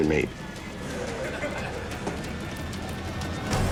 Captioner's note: inmates laughing